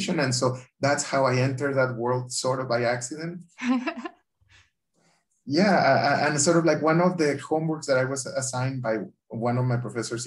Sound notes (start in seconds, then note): 3.7 laugh